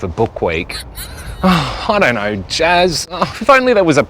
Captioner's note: sighs